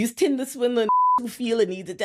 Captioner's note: beep